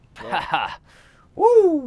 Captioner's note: laughs